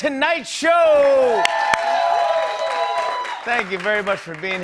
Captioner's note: cheers and applause